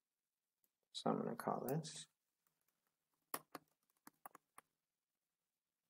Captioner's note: typing